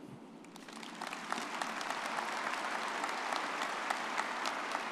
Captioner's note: everyone applauding